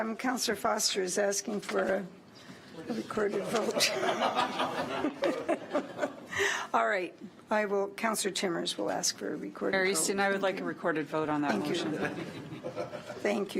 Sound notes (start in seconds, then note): 3.6 laughs